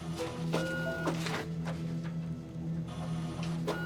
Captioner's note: copier